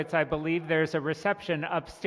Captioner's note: cheering and applauding